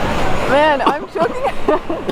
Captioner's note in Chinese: 咳嗽声